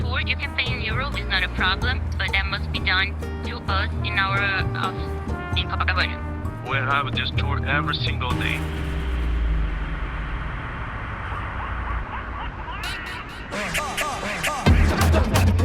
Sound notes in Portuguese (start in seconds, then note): 6.8 homem em inglês